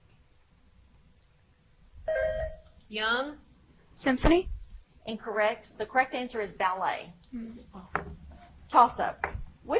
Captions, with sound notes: (buzzer chimes) - Young? - Symphony? - Incorrect. The correct answer is ballet. (contestants murmur) Toss up.